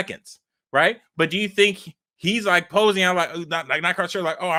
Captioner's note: stammering